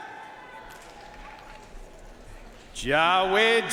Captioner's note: audience cheering and applauding